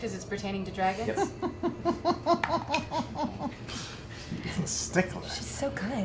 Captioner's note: laughs